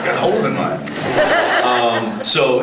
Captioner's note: laughs